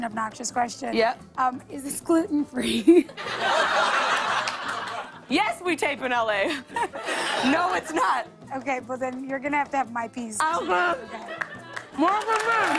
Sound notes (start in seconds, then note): 2.8 laughter